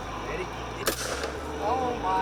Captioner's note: gun firing